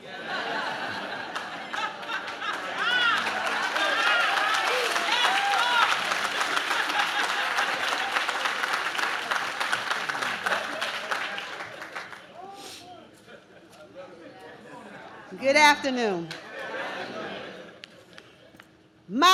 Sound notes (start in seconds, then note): 0.3 audience laughs; 3.3 audience claps; 6.6 woman laughs